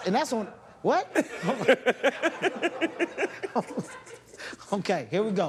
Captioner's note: laughter